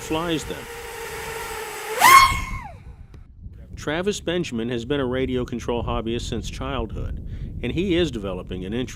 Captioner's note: whistling launch